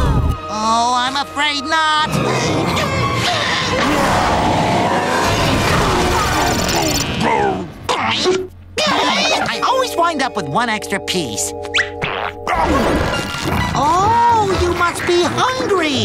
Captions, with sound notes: Oh, I'm afraid not. [roaring] [yelling] I always wind up with one extra piece. [chomping] Oh, you must be hungry!